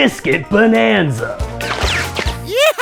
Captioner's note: laser shooting